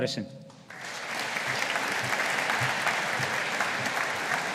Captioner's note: audience applauding